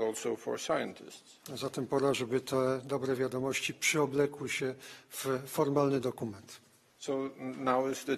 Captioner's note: speaking polish